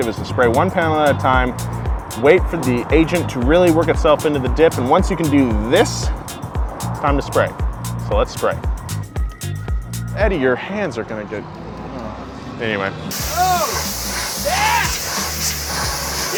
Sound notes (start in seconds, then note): 13.1 high pressure washer sprays